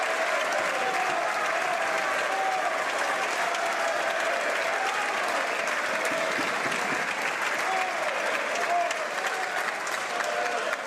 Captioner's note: some Applause